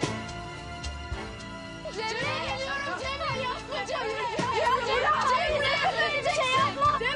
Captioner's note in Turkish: Bağırışmalar